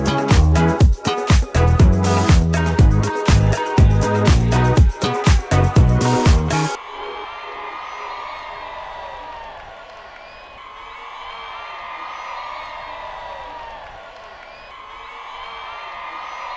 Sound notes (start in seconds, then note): 6.9 crowd cheering